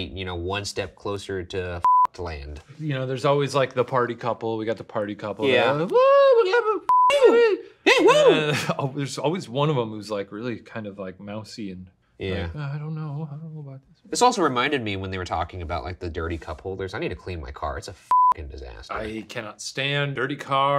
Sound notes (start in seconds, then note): 6.2 cheers